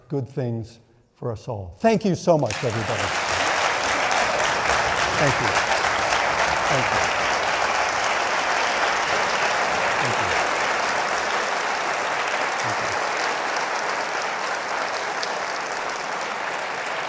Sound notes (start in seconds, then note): 3.3 audience cheering; 8.1 audience cheering